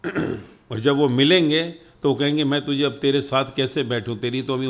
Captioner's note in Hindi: गला साफ़ करने की आवाज़